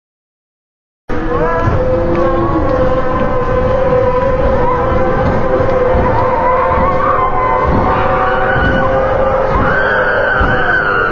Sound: sound of zombies

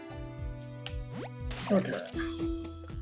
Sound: none

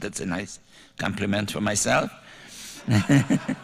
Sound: laughter

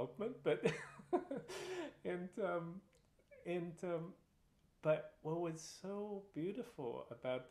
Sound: laughter

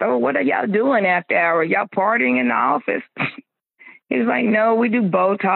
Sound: chuckles

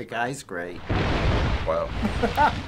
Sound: splashing; chuckles

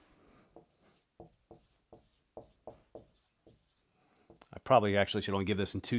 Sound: marker tapping board

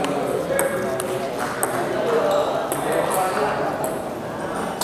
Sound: applause

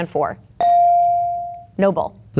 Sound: bell dinging

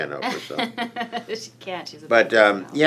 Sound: laughs

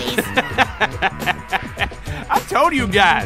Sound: laughing

